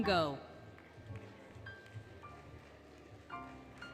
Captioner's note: applause, Music